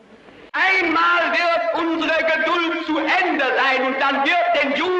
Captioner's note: speaking in German